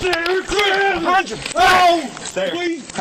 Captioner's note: shouting; screaming